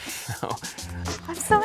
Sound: chuckles

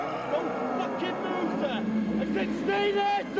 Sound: groaning

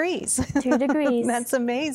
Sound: laughing

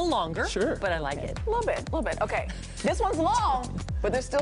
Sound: laughter

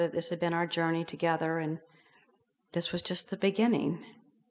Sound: none

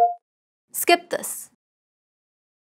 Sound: beep

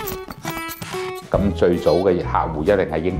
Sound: Cantonese

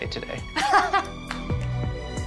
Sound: chuckles

